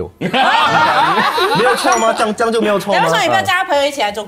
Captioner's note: laughs